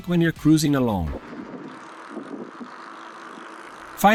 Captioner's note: tires sound